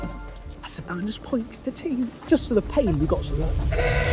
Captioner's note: honk